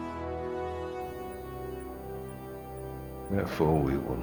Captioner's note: beeping